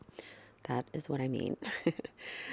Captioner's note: chuckles